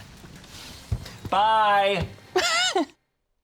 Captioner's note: laughs